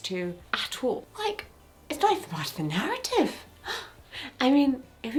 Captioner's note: gasps